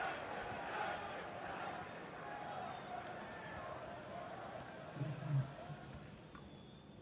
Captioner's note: crowd quietens; scattered chanting; supporters shushing